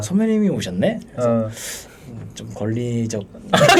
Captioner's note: inhaling